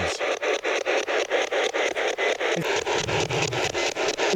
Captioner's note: static ticking